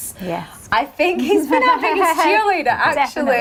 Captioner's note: chuckling